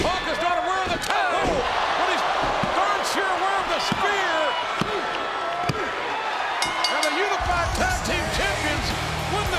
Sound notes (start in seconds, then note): 6.5 bell rings